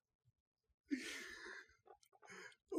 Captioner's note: inhale